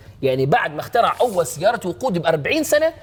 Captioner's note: none